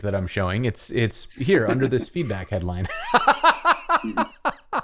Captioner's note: laughter